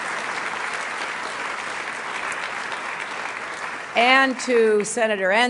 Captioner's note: applause